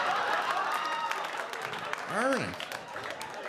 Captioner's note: audience laughing